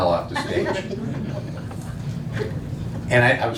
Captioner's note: laughing